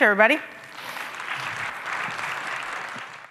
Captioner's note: audience applauds